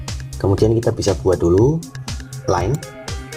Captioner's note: click